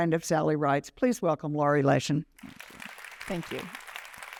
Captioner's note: applause